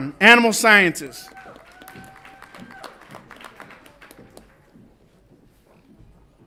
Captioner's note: audience applauds and cheers